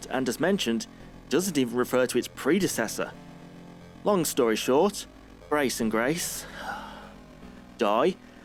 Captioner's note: sigh